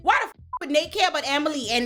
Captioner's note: beep